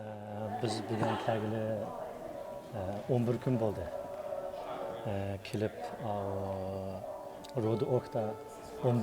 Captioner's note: people talking in Chinese